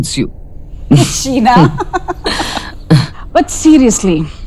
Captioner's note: Sheena and Poonam chuckles